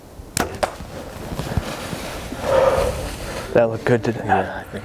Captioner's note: arrow popping